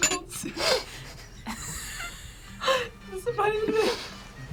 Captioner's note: laughs; both laugh